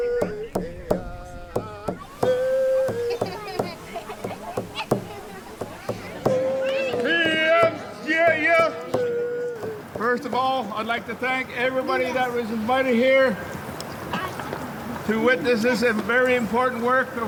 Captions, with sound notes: (child giggling) (speaking foreign language) First of all, I'd like to thank everybody that was invited here to witness this very important work